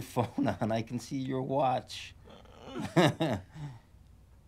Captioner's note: chuckles